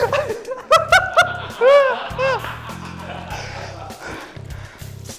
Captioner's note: laughter